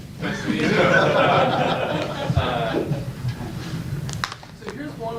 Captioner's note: audience laughs